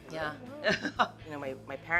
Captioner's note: laughing